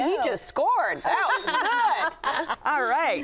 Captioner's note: ladies laughing